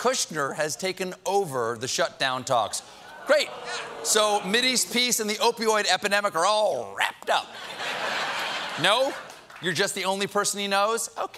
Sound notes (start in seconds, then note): 2.8 audience reacts; 7.4 laughter